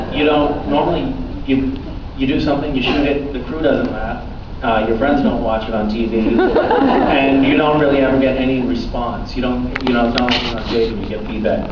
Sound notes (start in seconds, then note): 6.2 laughs